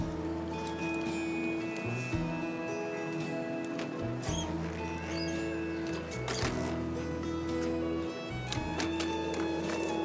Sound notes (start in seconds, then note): 5.1 walker squeaks